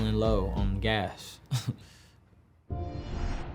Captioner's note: chuckling